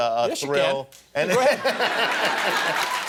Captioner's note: laughter